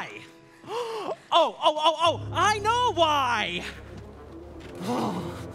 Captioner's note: gasps; shivers